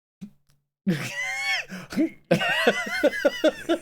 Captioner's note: laughs